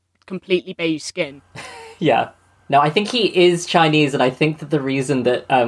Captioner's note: laughs